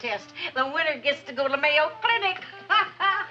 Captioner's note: laughs